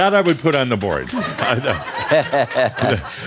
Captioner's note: more chuckles